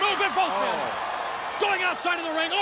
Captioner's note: crowd cheering